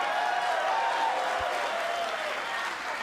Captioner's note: cheers & applause